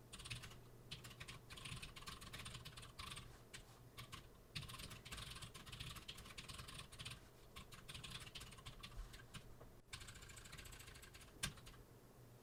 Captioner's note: typing sounds